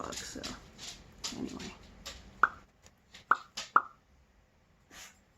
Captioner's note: pop pop pop